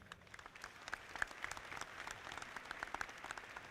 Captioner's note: audience clapping